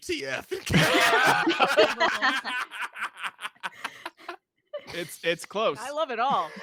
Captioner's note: laugh